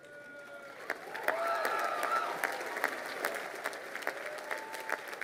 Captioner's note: crowd applauding